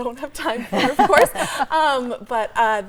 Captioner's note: everyone chuckling